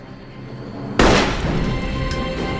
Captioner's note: gunshots